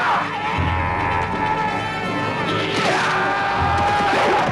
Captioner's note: raider yelling